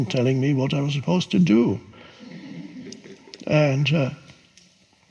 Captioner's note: audience chuckles